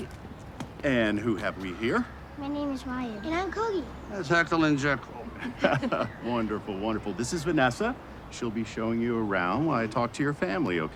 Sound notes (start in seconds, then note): 5.4 all giggling